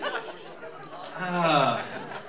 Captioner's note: sigh